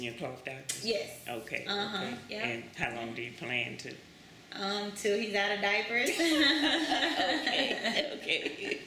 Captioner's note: laughter